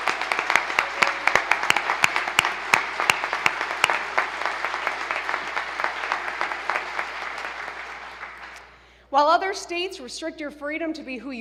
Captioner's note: applause